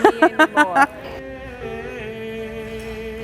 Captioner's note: laughs